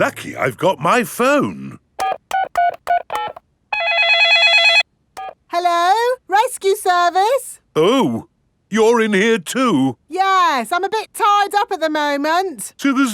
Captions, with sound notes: Lucky I've got my phone! (DIALING) (CELL PHONE RINGING) Hello, rescue service. Oh. You're in here too. Yes, I'm a bit tied up at the moment.